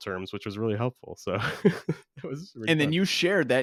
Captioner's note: laughs